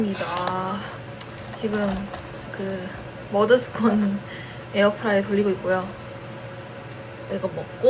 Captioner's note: the background noise is the sound of a scone being baked in the air fryer